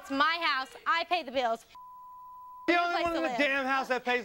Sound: beep

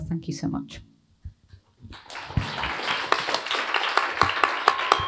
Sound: applause

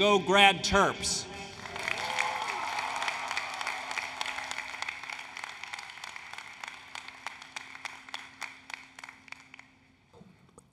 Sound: applause, Cheering

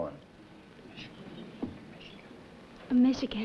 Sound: whispering

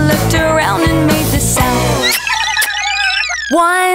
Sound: kisses

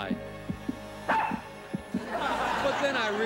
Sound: arf

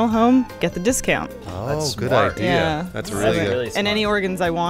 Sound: impressed

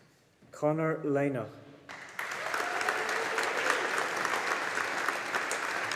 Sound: audience applauding

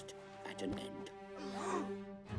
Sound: gasps; dramatic music

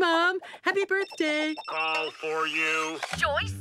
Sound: phone ringing

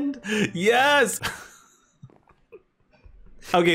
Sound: laughing

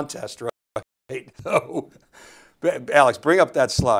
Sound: he chuckles

